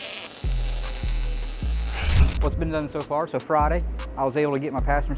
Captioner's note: drill whirring